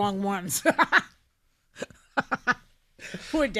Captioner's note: laughing